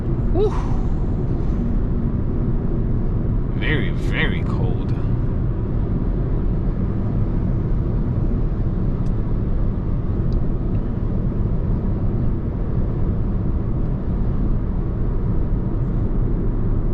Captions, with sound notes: (car engine roaring) Woo! Very, very cold. (car engine roaring)